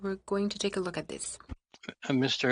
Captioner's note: speaking French